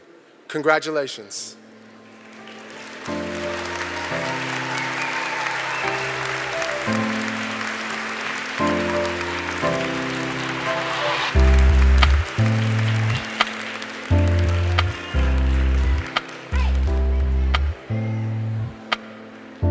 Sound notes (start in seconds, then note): 8.0 applause